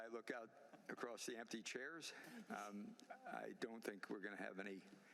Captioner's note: laughter